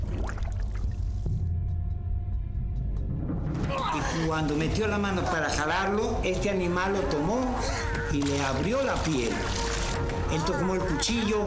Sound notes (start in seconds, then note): 3.1 speaking Spanish; 3.6 groaning